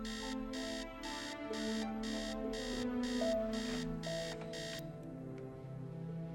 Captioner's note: alarm